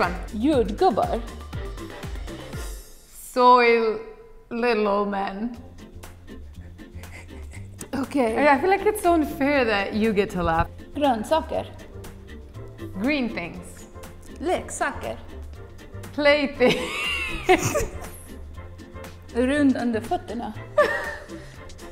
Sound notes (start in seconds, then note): 1.1 speaking in a foreign language; 11.0 speaking in a foreign language; 14.8 speaking in a foreign language; 19.8 speaking in a foreign language; 20.7 both laughing